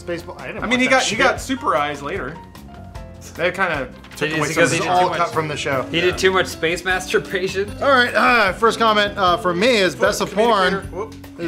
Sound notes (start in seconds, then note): none